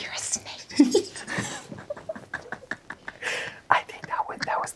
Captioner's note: everyone laughs